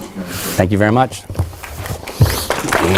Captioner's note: applause